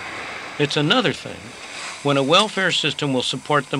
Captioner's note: none